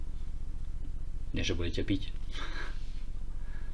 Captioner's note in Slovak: smiech